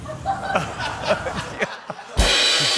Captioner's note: laughter; cymbals crash